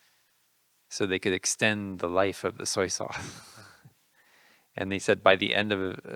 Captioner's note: laughing